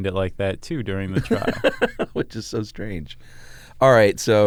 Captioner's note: laughs